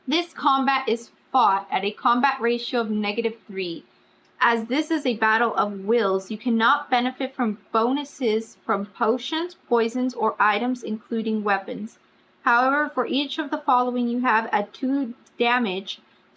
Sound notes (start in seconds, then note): none